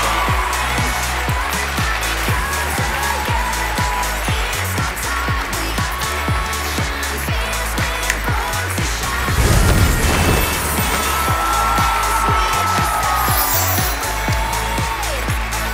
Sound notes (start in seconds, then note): 7.7 finger snap